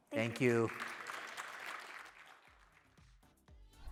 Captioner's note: applause